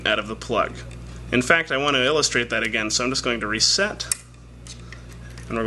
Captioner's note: click